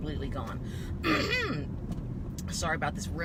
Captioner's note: clears throat